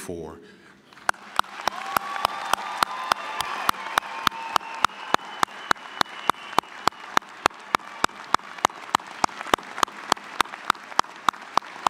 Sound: applause, cheering

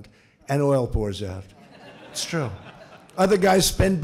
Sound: laughter

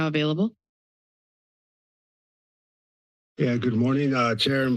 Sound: silence

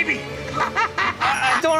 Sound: laughter

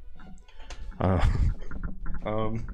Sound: nervous Laugh

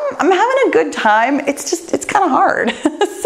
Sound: laughs

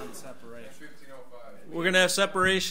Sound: overlapping chattering

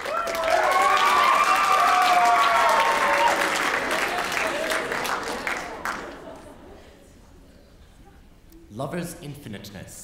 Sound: applause

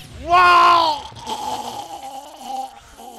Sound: dying noises

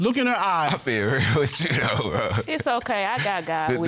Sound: laughing

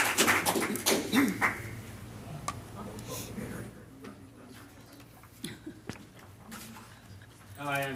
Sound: applause

